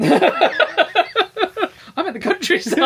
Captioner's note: laughing